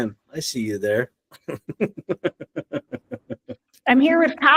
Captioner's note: both laugh